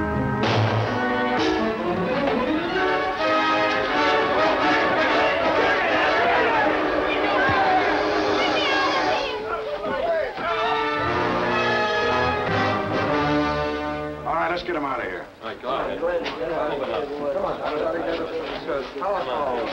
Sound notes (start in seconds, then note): 0.2 glass shattering; 0.4 gun firing; 3.9 men shouting; 12.6 dramatic music; 14.2 policemen murmuring